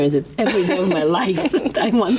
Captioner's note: laughs